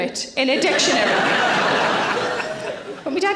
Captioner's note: audience laughing